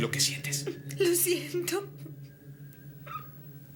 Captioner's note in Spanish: choramingando